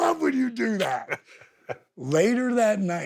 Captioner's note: Steve laughs